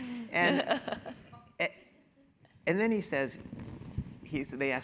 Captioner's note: laugh